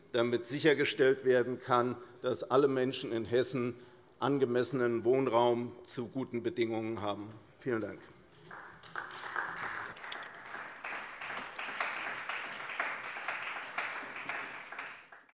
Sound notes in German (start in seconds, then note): 8.4 Beifall bei der CDU und dem BÜNDNIS 90/DIE GRÜNEN